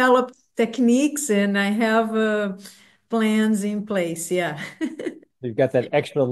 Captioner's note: laughs